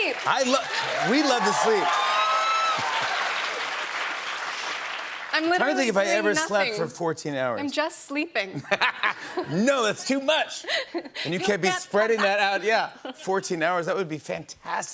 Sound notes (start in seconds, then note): 1.8 cheers and applause